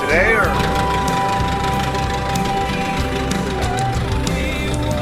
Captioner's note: engine revving